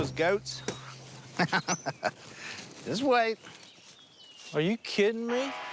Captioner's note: laughs